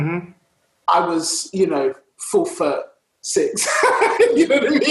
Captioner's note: laughs